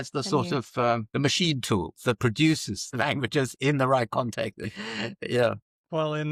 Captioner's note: laughs